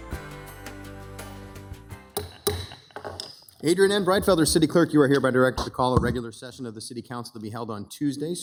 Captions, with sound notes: (gavel pounding) - Adrienne N. Breitfelder, City Clerk, you are hereby directed to call a regular session of the city council to be held on Tuesday,